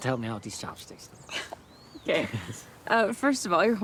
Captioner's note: Zoe chuckles